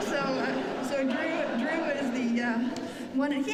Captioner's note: laughter